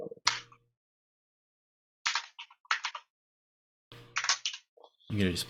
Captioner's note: keyboard keys clanking